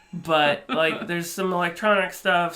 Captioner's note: laughs